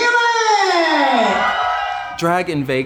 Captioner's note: cheers